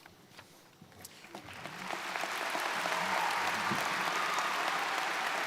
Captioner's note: crowd applauding